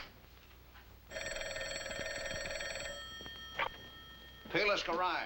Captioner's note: phone ringing